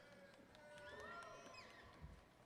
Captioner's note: applause